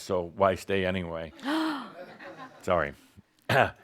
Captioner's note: gasps